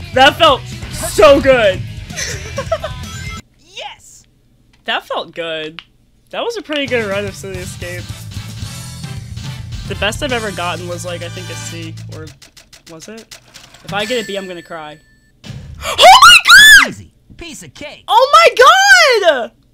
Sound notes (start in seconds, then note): 2.1 laughter; 7.9 victory music